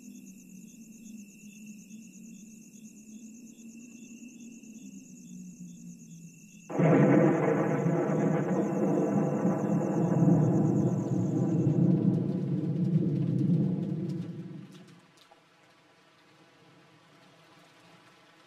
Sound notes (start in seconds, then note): 6.7 thunder Rumbling; 11.5 rain Pattering